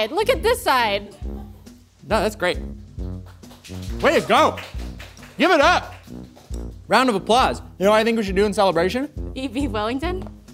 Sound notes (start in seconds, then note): 3.2 applause